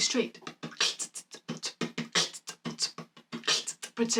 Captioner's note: beatboxing